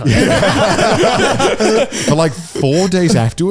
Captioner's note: all laughing